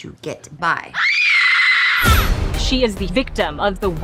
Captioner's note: woman screaming